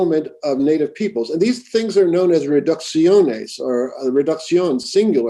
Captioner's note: spanish